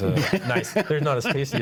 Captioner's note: laughs